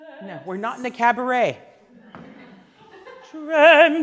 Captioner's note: laughing